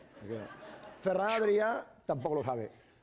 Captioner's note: speaking spanish